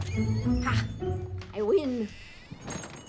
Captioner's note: door creaks and jingles